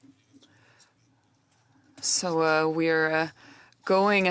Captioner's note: speaking French